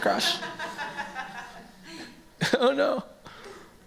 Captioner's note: laughter